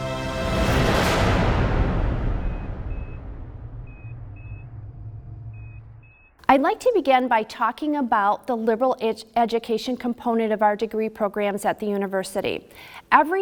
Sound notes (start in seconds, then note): 0.2 swooshing; 2.4 beeping